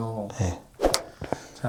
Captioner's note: snap!